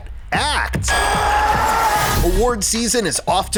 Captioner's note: shouts